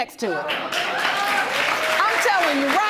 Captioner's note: audience applauding